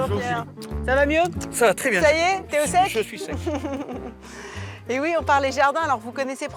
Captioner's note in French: rires